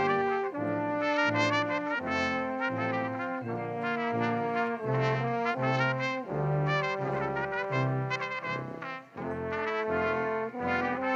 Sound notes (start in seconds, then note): none